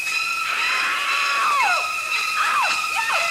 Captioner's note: scream